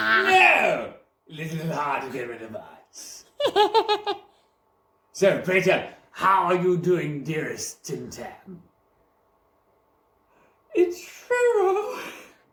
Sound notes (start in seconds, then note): 3.4 Giggles In Bagnals